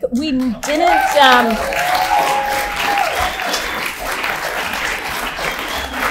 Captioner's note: audience laughs and applauds